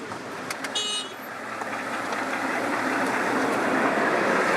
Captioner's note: horn beeping